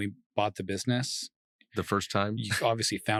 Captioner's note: laughing